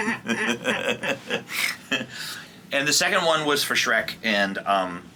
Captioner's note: chuckles